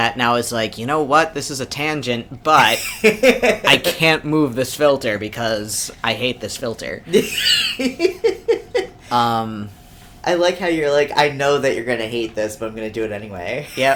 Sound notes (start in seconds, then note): 7.1 laughs